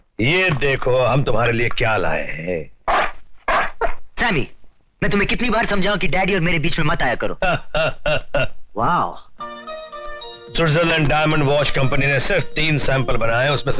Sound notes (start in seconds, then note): 3.4 dog Barking; 7.4 laughing